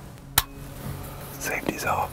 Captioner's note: whispering